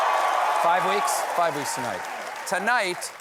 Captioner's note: cheers and applause